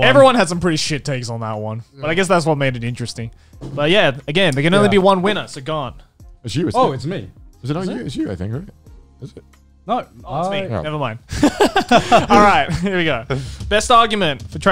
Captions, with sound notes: - Yeah everyone had some pretty shit taste on that one. I guess that's what made it interesting. But yeah again there can only be one winner. So Garnt. - It's you. - Oh it's me. - It's you I think Garnt. - Nope it's me, nevermind. (laughing) All right, here we go. (drum roll)